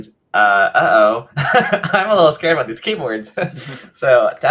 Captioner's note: laughs